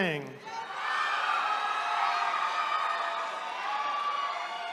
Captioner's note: attendees cheering